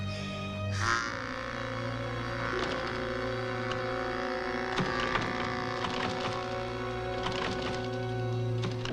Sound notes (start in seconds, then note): 2.6 doorknob rattling